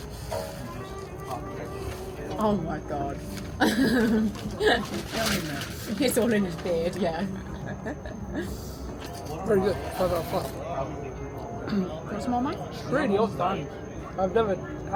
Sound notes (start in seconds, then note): 3.6 laughter